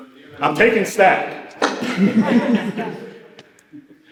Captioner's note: laughter